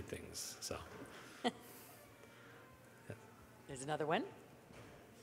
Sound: chuckles

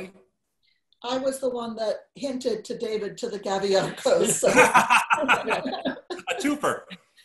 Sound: group laughter

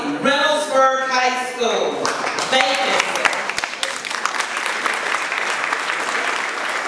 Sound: applause

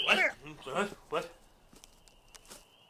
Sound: crickets abruptly stop

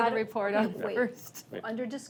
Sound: laughs

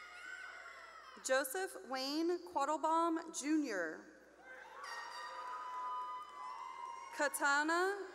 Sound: cheering; cheering

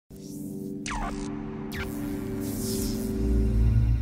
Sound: electrical buzz

